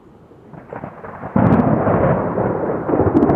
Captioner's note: thunder